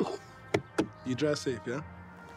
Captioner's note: laughing; hand thudding